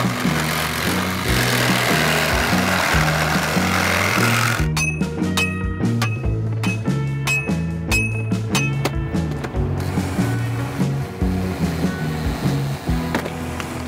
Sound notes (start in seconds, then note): 4.9 metal clanking; 9.1 gentle upbeat music ends